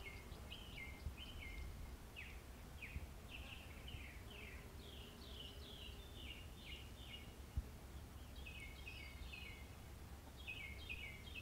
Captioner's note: birds singing, insects buzzing, wind blowing, water flowing